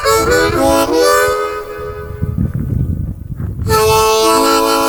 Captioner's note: wind whooshing